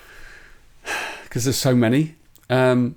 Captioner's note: sighs